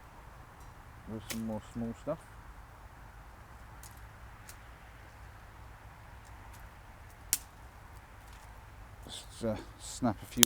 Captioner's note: twigs snapping